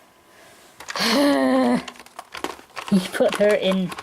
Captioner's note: heavy sigh